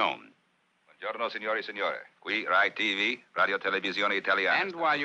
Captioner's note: speaking foreign language